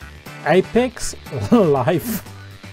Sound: laff

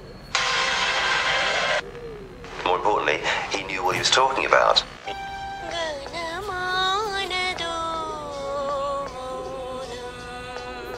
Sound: random TV Background Noise

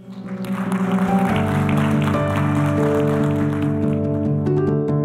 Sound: applause; concluding music

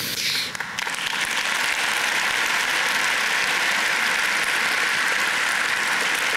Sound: applause

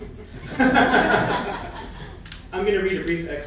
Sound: laughing

